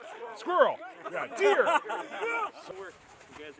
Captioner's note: laughter